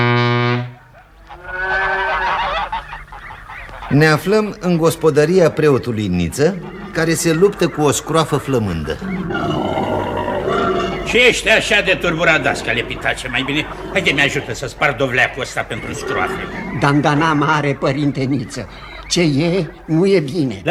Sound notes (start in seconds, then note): 1.0 mooing of a cow, clucking of birds; 8.9 grunting of a pig